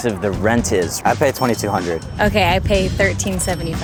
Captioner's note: cash register dinging